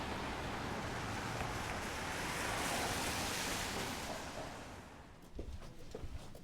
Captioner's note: car wheels splattering on wet road